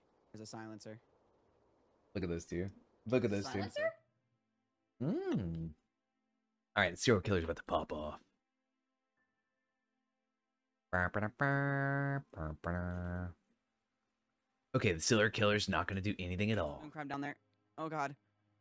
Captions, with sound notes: - There's a silencer. - Look at this, dude. Look at this, dude. - There's a silencer? - Mm. All right, let's see what killer's about to pop off. (humming) Okay, the killer's not gonna do anything at all. - Moon Crab down there. Oh, God.